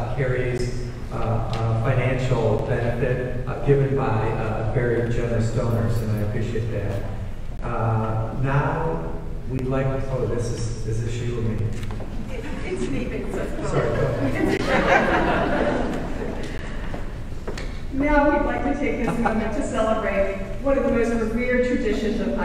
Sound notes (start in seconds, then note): 14.7 audience laughing